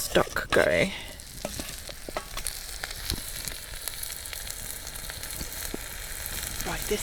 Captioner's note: sizzle